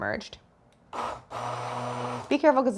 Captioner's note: blender whirring